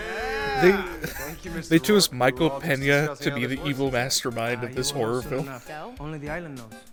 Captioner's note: laughter